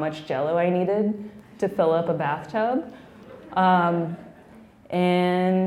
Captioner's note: laughing